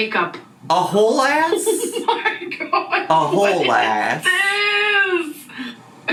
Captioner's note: laughing